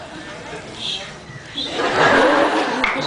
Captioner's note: whispering; laughs